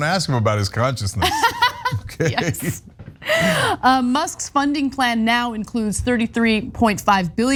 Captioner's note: laugh